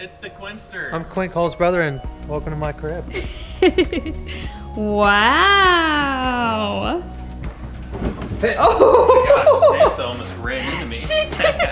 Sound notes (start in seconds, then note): 3.1 laughs; 8.2 laughing